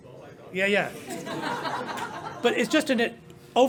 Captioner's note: laughter